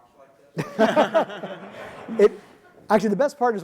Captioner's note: audience laughing